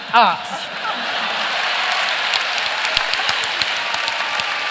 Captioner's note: cheering and applause